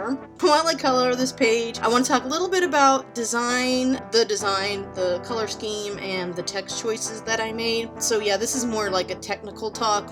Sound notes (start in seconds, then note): none